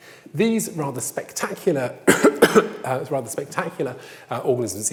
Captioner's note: coughs